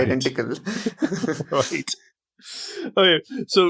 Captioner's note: both laugh